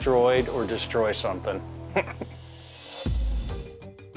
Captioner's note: chuckles